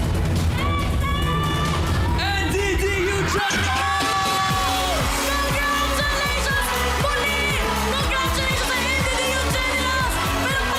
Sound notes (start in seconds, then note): 0.9 audience member screams; 3.4 screaming; 4.4 theme music playing